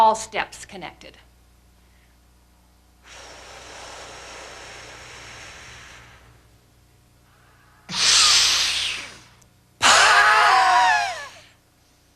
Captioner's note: breathing